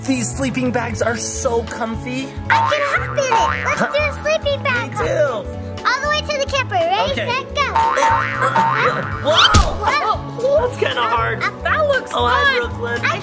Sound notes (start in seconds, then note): 3.4 dolls hopping; 9.0 doll falling; 9.4 dolls hopping